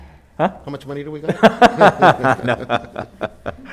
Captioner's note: laughs